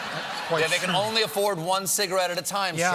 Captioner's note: laughter